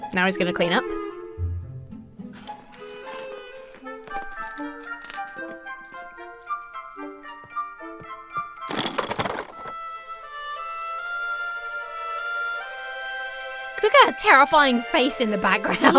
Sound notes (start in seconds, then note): 1.1 whimsical music; 4.6 marbles clattering; 8.7 toys clanking